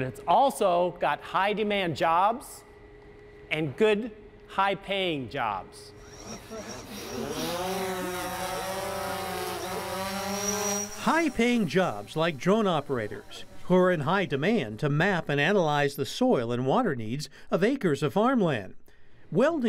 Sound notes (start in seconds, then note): 7.6 drone takes off